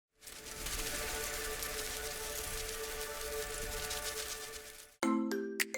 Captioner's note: butterflies Fluttering; peppy Music